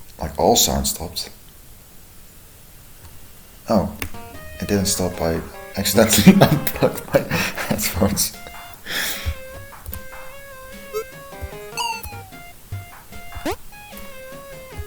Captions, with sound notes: Like all sound stopped... Oh. [click, music resumes] It didn't stop, I... (laughing) accidentally unplugged my... headphones.